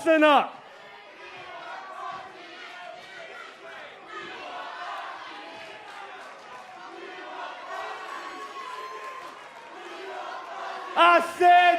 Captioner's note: crowd cheering